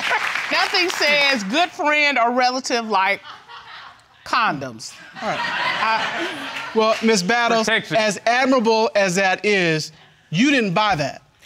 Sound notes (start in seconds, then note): 5.1 audience laughs